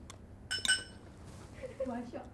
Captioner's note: clink clink